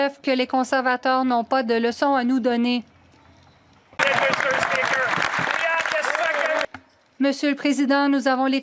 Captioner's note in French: voix de l'interprète